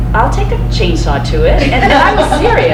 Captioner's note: crowd laughs